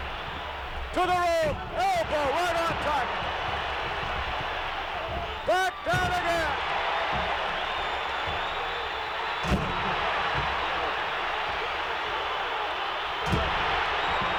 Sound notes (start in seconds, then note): 7.9 audience cheering